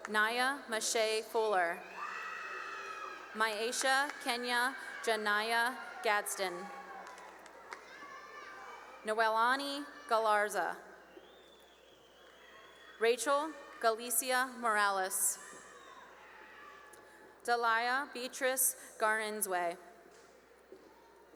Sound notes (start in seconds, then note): 2.2 cheering; 7.4 cheering; 10.9 whistling; 15.0 cheering